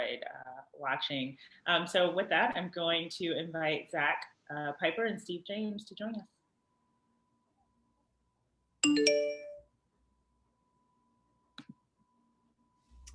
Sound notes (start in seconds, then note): 8.8 phone chimes